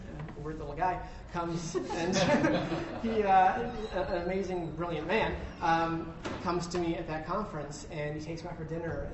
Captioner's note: laughter